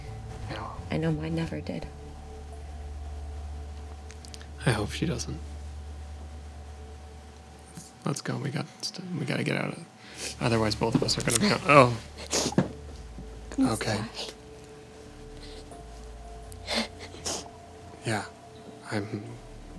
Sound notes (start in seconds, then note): 12.2 Annabelle crying